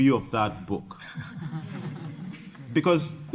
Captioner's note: audience laughing